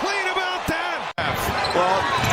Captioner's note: crowd noise